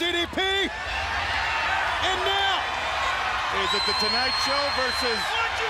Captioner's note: crowd cheering